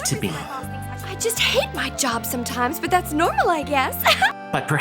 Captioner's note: chuckles